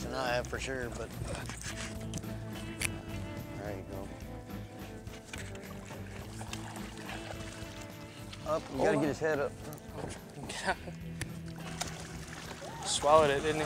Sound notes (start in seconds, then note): 8.0 water splashing; 11.5 laughs